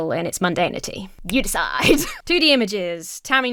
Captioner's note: Emma laughs